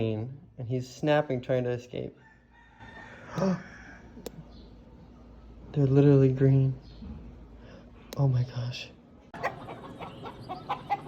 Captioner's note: gasp